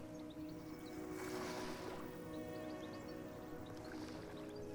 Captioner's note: water lapping